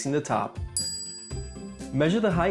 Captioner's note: ding